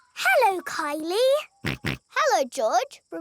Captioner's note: snorts